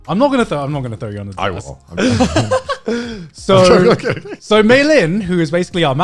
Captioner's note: guys laughing